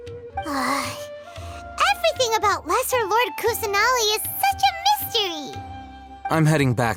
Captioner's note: sigh